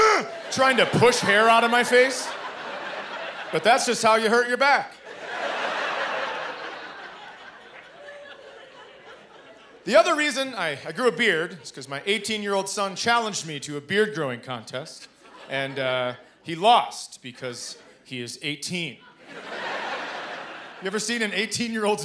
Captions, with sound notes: Trying to push hair out of my face. But that's just how you hurt your back. [laughter] The other reason I grew a beard is 'cause my 18-year-old son challenged me to a beard growing contest. And, uh, he lost because he is 18. You ever seen an 18-year-old's beard?